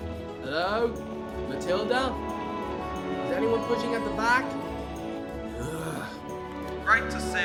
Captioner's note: groans